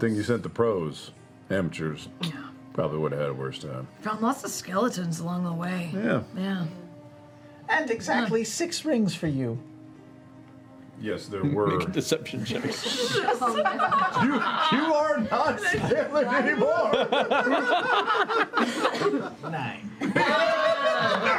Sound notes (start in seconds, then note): 12.3 laughter; 19.9 chuckles